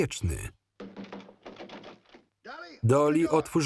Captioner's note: loud knocking on door